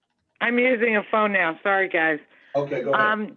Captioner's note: phone